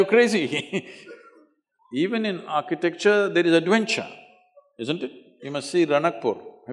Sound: laughs

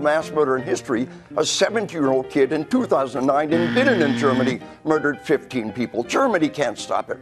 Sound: long buzz

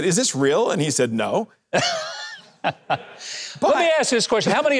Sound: Mike laughing

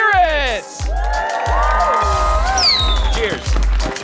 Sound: audience clapping and cheering

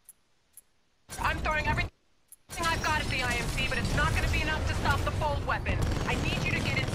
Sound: radio

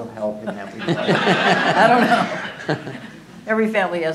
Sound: laughter

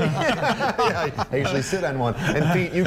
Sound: laughter

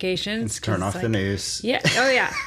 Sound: laughs

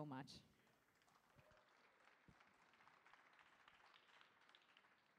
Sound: audience applauding

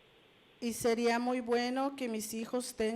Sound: Spanish language

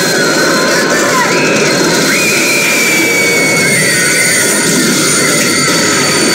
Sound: screaming

